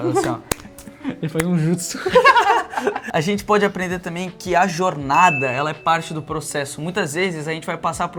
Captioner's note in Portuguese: risadas